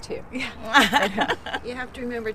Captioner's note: laughs